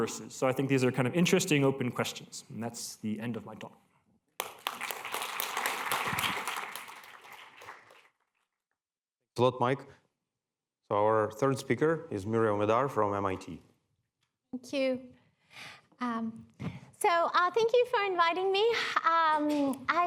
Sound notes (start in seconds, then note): 4.4 applause